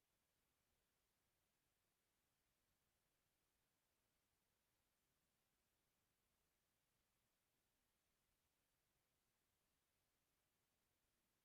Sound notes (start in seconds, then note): none